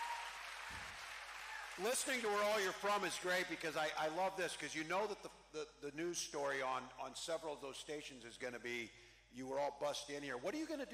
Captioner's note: cheering